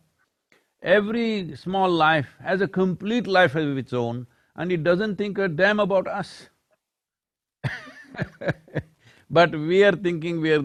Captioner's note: laughs